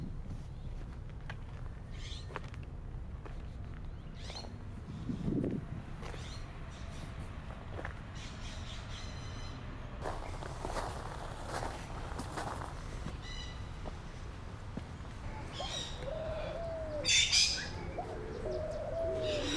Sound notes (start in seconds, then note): 13.4 birds chirping